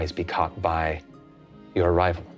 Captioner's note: none